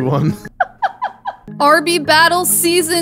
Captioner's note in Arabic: تضحك